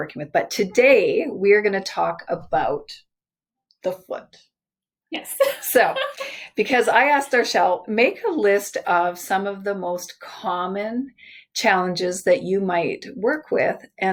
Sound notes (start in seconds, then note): 5.3 laughs